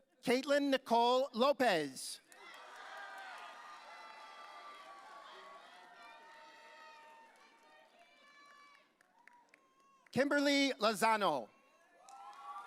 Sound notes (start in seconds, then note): 2.3 audience cheering; 12.0 audience cheering